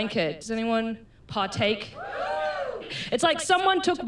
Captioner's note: scattered cheering